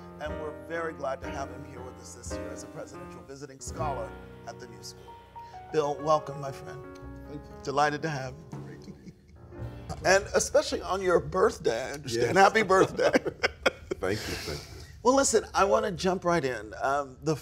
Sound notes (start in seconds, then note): 11.9 laughs